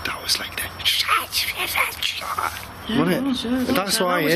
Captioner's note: scratchy whispering